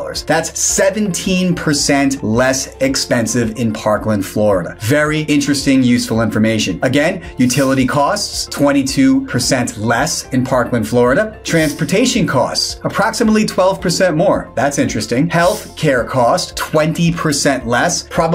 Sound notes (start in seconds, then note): 7.5 graphics swish; 11.5 graphics swish; 15.4 graphics swish